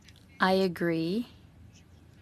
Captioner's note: speaking French